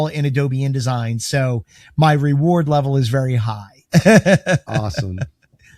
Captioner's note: laughs